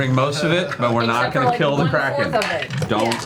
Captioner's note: chuckles